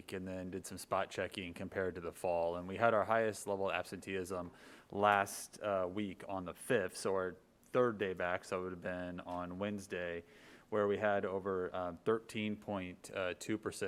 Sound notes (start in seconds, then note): none